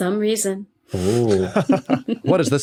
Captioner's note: crack up